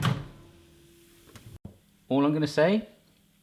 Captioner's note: sizzling